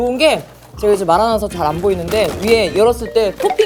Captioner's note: slurp 2.0